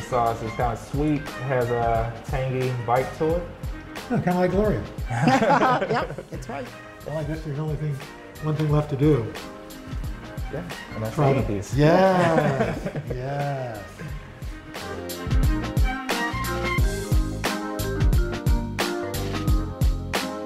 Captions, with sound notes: This sauce is kind of sweet. Has a tangy bite to it. - Kind of like Gloria. (laughter) - Yep! That's right. - One thing left to do. - Gonna eat these. - Yes! (upbeat jazzy music)